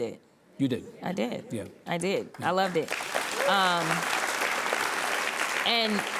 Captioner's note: audience applauds